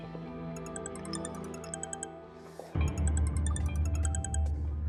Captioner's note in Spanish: Suena el celular